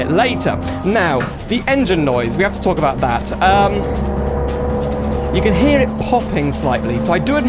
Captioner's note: loud Engine Noise